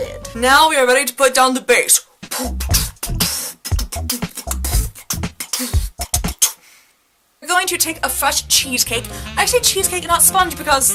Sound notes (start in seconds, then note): 2.2 really bad white-girl-beat-boxing